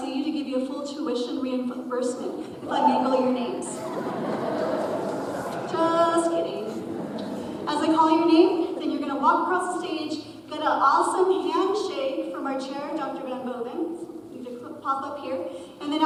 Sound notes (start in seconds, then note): 3.6 audience chuckles